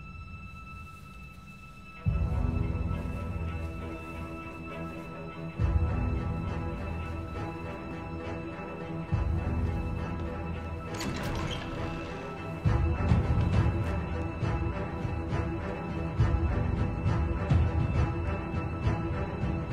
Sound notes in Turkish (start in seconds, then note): 10.0 Kapı açılma sesi